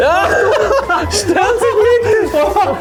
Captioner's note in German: lachen